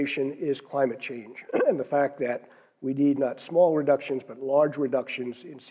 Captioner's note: cough